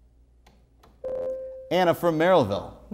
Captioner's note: buzzer